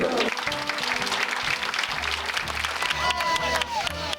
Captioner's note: audience applauding